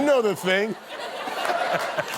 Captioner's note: laughter